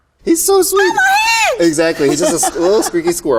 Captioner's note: speaks in foreign language